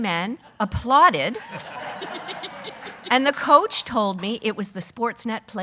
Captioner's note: audience laughing